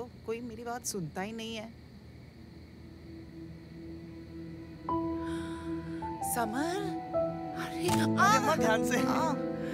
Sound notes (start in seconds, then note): 5.0 Gasps